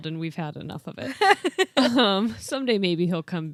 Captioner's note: laughs